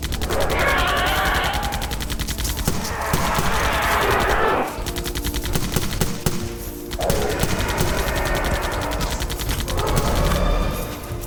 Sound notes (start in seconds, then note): 0.2 gunfire; 0.2 loud screeches and roars; 7.0 angry roars; 7.7 gunfire